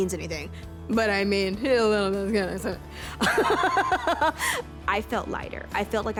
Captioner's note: jokingly mumbles; laughs